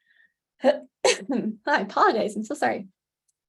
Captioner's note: cough